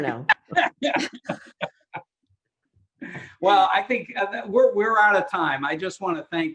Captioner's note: laughs